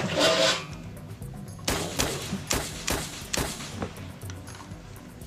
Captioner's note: gun firing